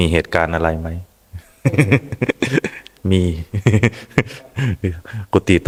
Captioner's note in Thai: เสียงหัวเราะ